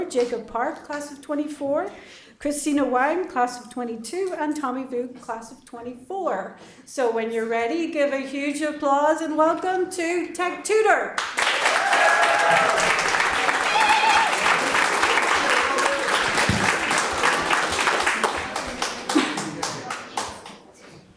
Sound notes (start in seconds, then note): 11.3 audience applauds